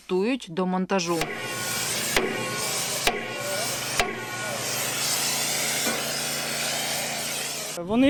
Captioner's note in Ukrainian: Стукіт. Звуки зварювання